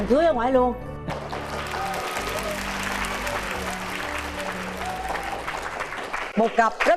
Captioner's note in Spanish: aplausos